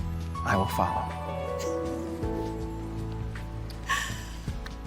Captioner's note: Jackie laughs; soft music